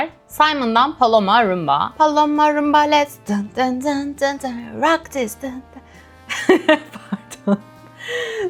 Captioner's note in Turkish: kahkaha